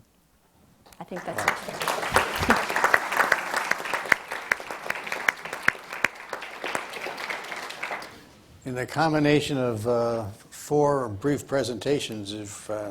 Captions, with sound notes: I think that's it. (audience applauds) - In the combination of four brief presentations,